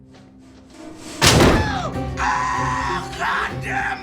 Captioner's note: loud bang